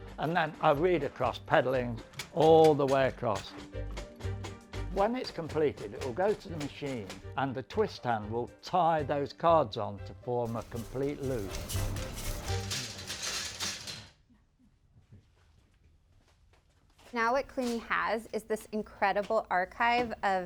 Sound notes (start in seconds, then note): 12.6 machine clattering